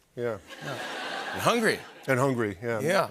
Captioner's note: laughter